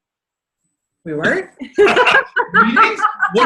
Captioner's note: laughs